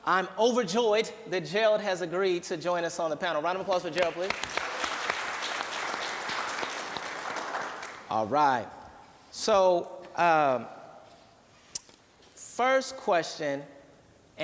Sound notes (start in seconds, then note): 3.9 applause